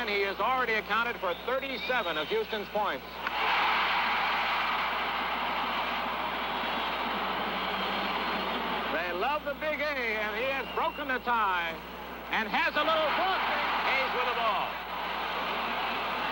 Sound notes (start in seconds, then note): 3.2 crowd cheering